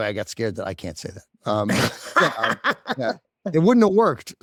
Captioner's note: laughs